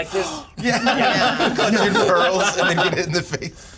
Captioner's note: laughter